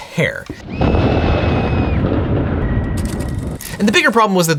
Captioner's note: booming thunder; terrified scream